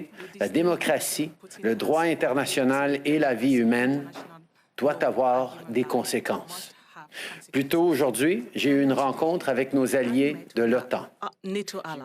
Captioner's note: speaking French